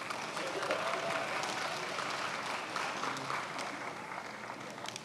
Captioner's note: attendees applauding